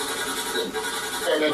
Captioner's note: strange voice from SB-7